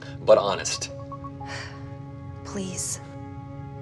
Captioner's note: sighs; suspenseful music